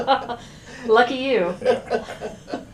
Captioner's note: laughter